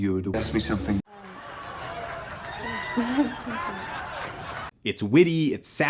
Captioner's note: slightly amused live studio audience